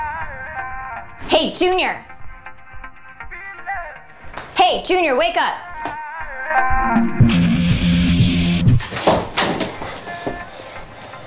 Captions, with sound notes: Hey, Junior! Hey, Junior, wake up. [TURNS UP VOLUME]